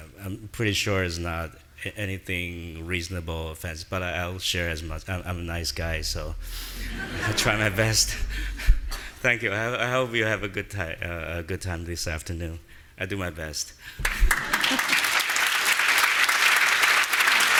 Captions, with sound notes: I'm pretty sure it's not anything reasonable but I'll share as much. I'm a nice guy so, I try my best. (audience laughing) Thank you, I hope you have a good time this afternoon. I do my best. (audience applauding)